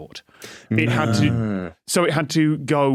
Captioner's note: guests murmur